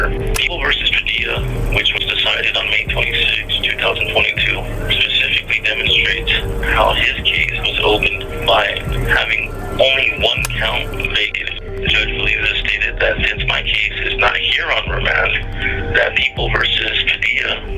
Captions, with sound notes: [Projector clicks on] People vs. Padilla, which was decided on May 26, 2022, specifically demonstrates how his [Projector sounds continues] case was opened by having only one count vacated. Judge Villeza stated that since my case is not here on remand, that People vs. Padilla,